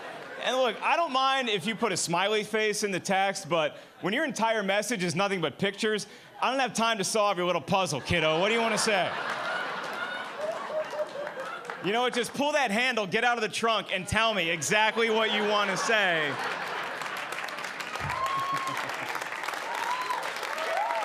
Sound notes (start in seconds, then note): 9.8 audience laughing; 14.8 audience applauding